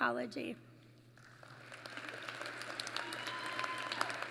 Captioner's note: applause